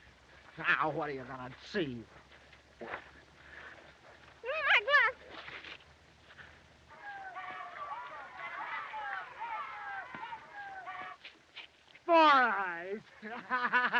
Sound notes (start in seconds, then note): 6.8 chattering; 12.4 laughs